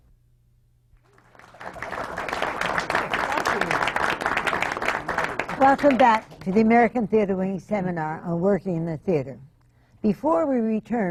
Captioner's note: applause